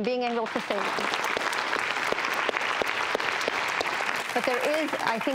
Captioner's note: audience clapping